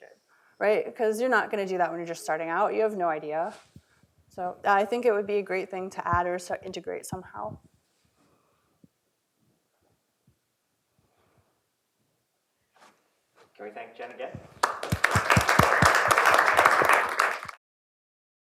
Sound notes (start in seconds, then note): 14.5 applause